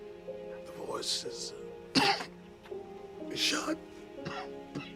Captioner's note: coughing